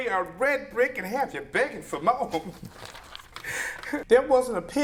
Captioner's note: laughs